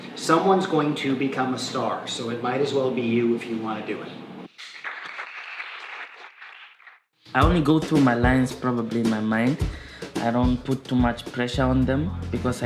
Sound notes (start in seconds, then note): 4.5 applause